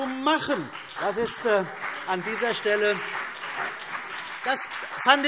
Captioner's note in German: Beifall CDU und BÜNDNIS 90/DIE GRÜNEN